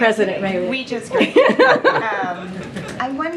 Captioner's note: laughter